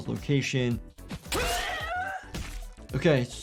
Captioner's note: character screams painfully